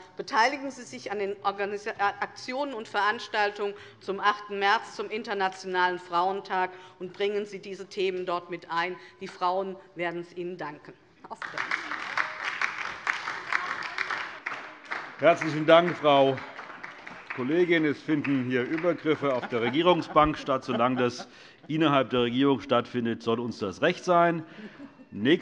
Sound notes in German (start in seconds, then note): 12.1 Beifall DIE LINKE und vereinzelt SPD